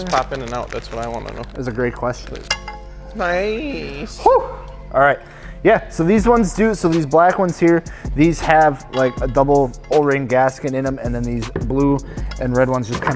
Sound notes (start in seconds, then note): 2.2 metal clinking